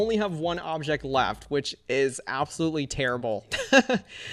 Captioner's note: laughs